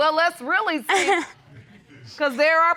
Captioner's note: chuckles